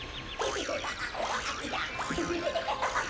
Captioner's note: laughing